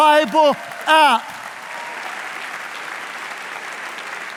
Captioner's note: audience applauding